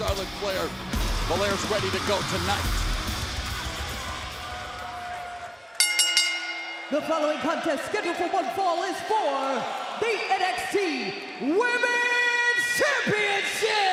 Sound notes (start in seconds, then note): 2.9 bell ringing